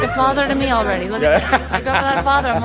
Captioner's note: laughing